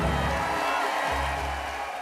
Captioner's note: applause